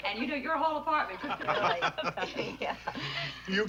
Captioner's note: laughing